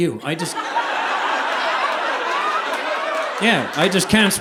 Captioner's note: audience laughing